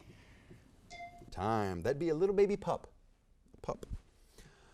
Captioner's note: bell dings